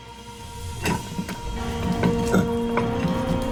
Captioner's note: chisel scraping; dramatic music